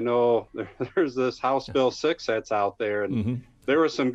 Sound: laughs

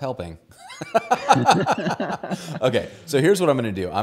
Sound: laugh

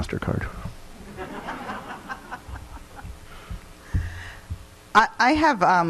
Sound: people laughing

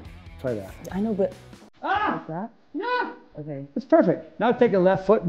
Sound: Tony screams

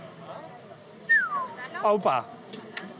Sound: whistles

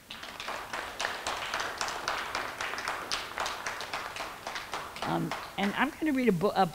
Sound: clapping

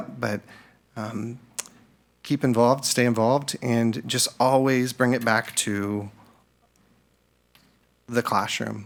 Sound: none

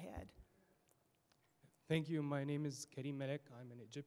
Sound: voiceover

